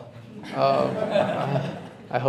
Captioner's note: laughter